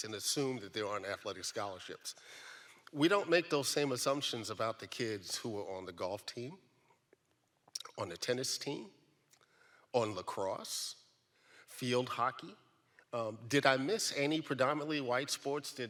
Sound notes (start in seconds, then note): none